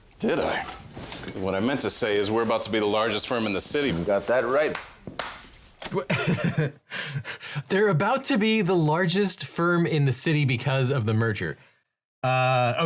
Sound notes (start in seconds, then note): 5.9 laughs